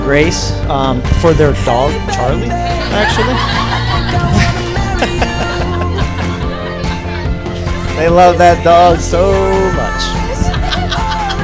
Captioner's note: laughing/laughter